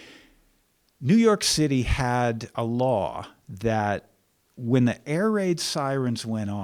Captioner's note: none